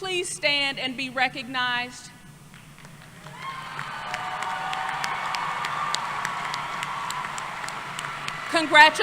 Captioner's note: applause